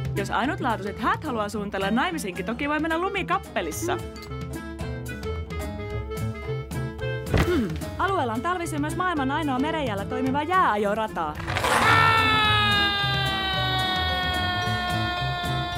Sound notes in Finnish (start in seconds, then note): 11.3 rengas pyörähtää; 11.4 huutaa